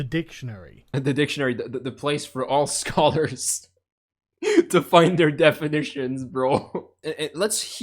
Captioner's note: chuckling